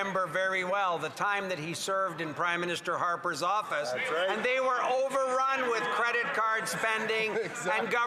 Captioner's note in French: voix de l'interprète